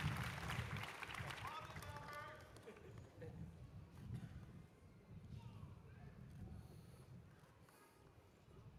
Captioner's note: cheers and applause